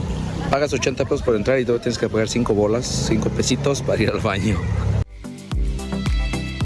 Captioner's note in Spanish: risas